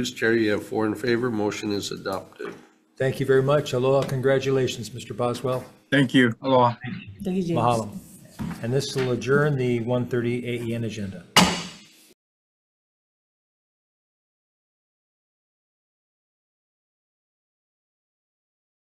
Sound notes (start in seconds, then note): 11.3 gavel bangs